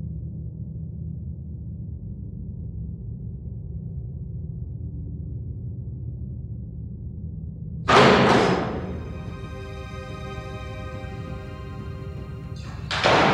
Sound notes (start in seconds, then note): 8.0 thudding; 10.5 dramatic music